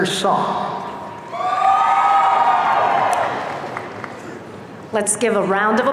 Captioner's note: audience cheering